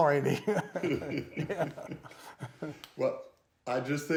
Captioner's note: laughing